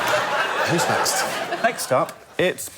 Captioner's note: laughter